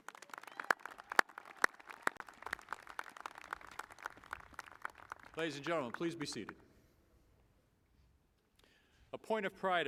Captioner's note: applause